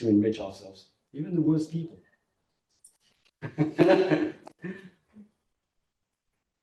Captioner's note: laughs